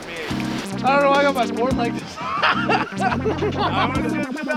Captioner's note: laughing